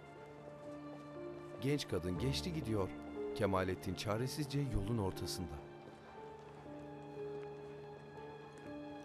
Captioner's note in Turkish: Ayak sesleri; Müzik - Gerilim